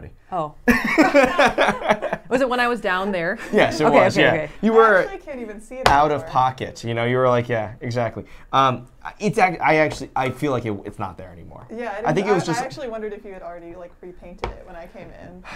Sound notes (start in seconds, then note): 0.7 laughs